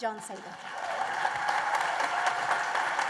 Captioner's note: applause